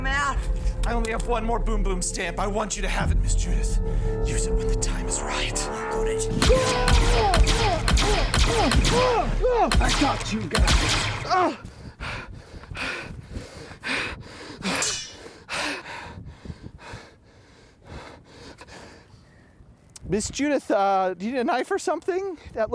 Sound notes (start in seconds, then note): 6.3 gunshots; 11.6 panting